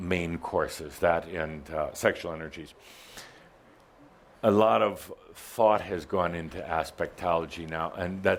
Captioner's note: none